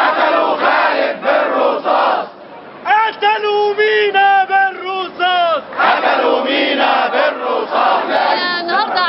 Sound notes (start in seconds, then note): 0.0 chants